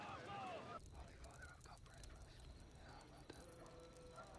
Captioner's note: wh ispering